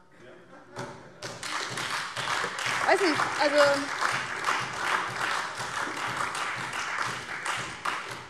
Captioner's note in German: Heiterkeit und Beifall DIE LINKE, SPD und Freie Demokraten